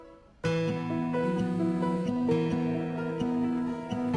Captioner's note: buzzing